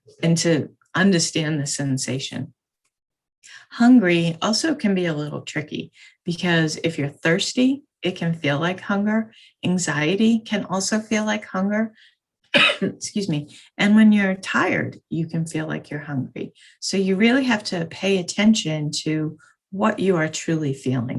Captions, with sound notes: and to understand the sensation. Hungry also can be a little tricky because if you're thirsty it can feel like hunger. Anxiety can also feel like hunger, (coughs) excuse me, and when you're tired, you can feel like you're hungry. So you really have to pay attention to what you are truly feeling.